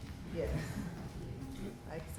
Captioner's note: students chuckling